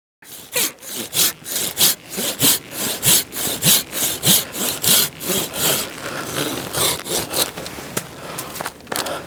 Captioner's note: sawing sound